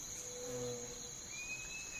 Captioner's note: night sounds